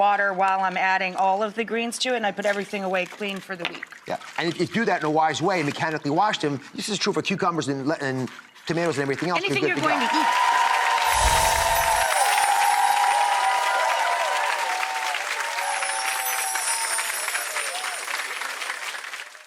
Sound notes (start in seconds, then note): 10.5 audience applause